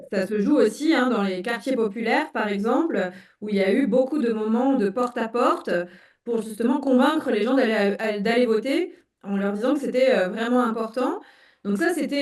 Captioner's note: speaking in French